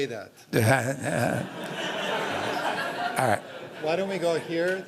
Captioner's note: laughter